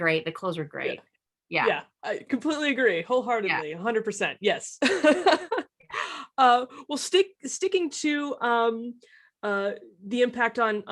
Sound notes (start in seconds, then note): 4.8 laughs